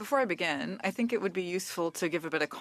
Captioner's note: speaking French